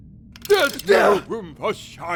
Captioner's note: yelp